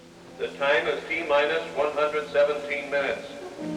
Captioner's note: man on PA